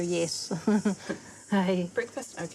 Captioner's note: chuckles